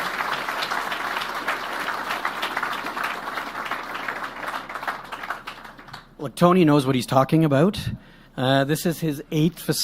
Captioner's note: applause